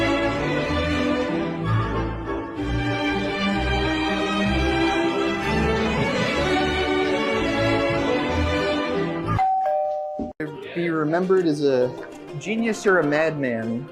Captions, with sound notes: (upbeat music) (doorbell ringing) Be remembered as a genius or a madman.